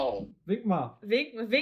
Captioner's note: speaking in foreign language